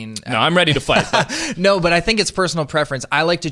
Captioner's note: laughing